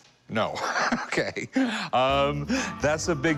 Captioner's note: laughing